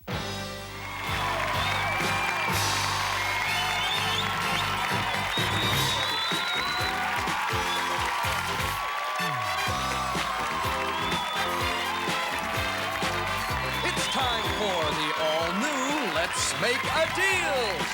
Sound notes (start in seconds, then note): 0.5 cheers and applause; 1.5 theme music playing